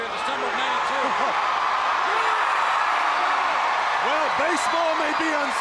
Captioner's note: crowd cheering